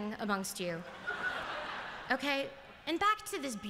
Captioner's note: laughter